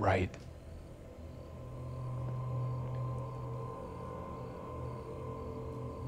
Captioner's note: crickets chirping; tense music